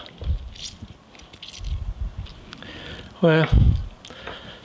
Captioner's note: lime squeaks